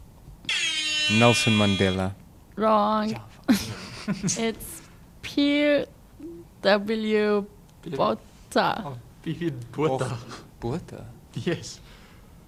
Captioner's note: horn Sound